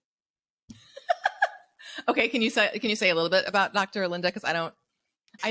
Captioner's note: laughs